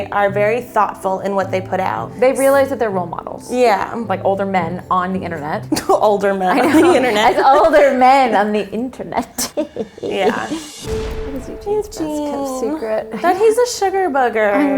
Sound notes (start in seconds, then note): 6.3 laughs; 9.2 laughs maliciously